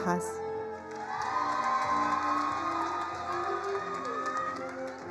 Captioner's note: attendees applauding